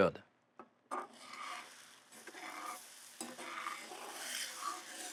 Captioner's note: metal scraping